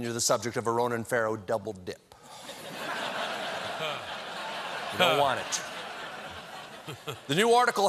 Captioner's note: laughter